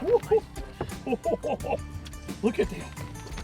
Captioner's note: water splashing; laughing